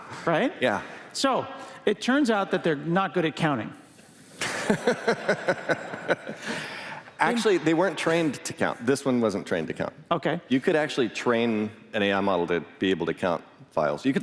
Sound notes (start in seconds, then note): 4.4 laughter